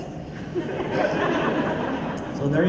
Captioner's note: laughter